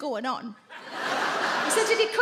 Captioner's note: audience laugh